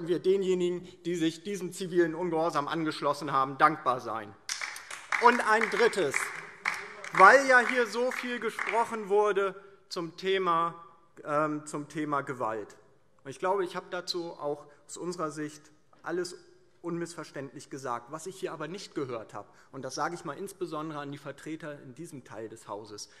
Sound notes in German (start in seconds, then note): 4.4 Beifall DIE LINKE